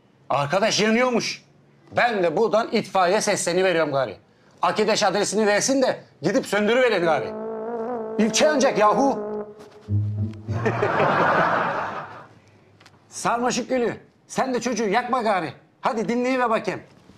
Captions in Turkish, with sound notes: Arkadaş yanıyormuş. Ben de buradan itfaiyeye sesleniyorum gari. Arkadaş adresini versin de gidip söndürün gari. İlçe yanacak yahu! (Gülme efekti sesi) Sarmaşık gülü! Sen de çocuğu yakma gari. Hadi dinleyiver bakayım.